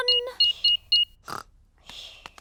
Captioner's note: beeping